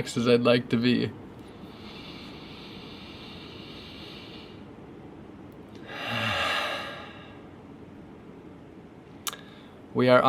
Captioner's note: breathes deeply